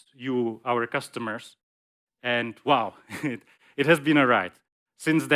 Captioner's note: laughs